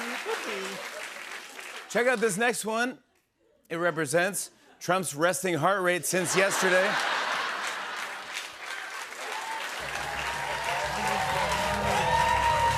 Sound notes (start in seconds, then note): 6.2 laughter and applause; 10.8 cheers and applause